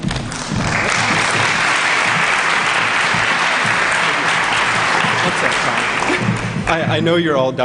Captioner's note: applause